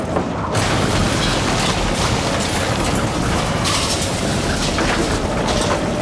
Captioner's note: glass shattering, house shaking